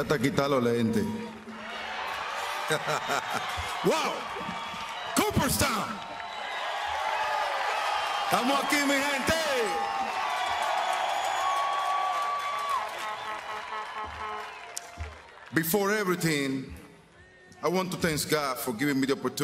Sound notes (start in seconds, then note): 7.2 speaking spanish; 14.7 speaking spanish